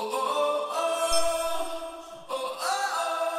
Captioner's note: logo resonating